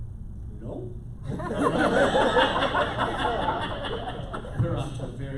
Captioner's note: laughter